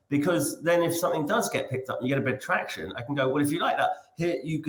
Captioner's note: none